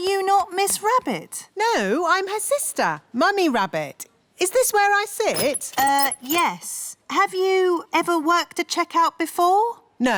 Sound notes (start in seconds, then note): none